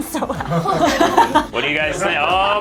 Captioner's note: laughs